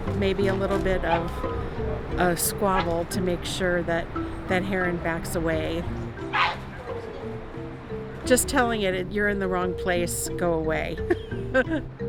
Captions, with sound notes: maybe a little bit of a squabble to make sure that that heron backs away. (Great Blue Heron squawks) Just telling it you're in the wrong place,